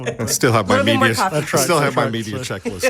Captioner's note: people chattering